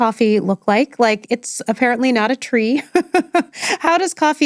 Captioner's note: chuckles